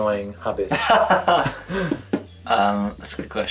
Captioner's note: laughs